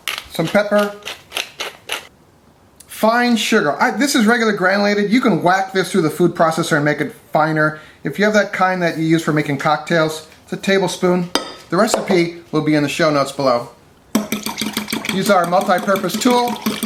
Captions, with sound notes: Some pepper. (grinder grinds through pepper) Fine sugar. This is regular granulated. You can whack this through the food processor and make it finer. If you have that kind that you use for making cocktails, it's a table spoon. The recipe will be in the show notes below. (fork beats against cup and mixture) Use our multi-purpose tool.